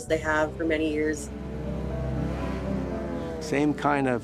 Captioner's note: engine roaring